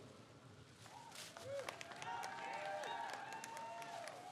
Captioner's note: crowd cheers